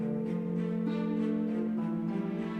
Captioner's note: phone rings